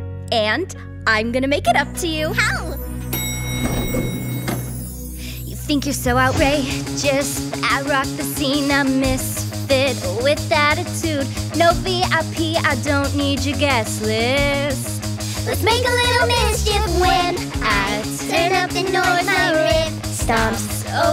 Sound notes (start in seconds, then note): 3.0 elevator dings